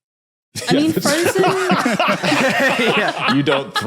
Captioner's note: group laughs heartily